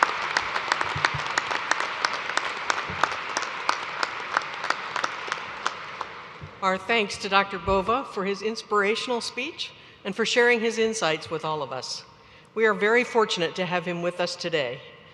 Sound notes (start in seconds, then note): 2.8 applause